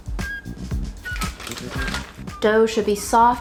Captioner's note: plastic crinkling